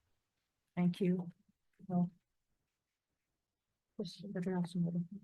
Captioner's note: speaks faintly